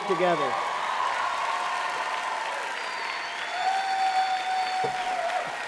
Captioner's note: applause